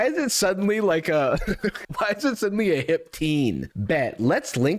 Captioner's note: chuckles